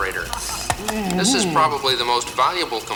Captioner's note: Muppet groans